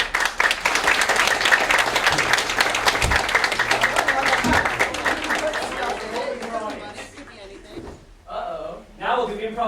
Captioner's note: applause, crowd chatter